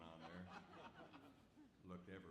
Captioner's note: audience laughs